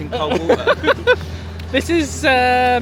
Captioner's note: pair laughing